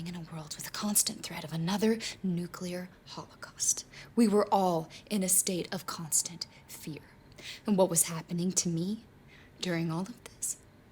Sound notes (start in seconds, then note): none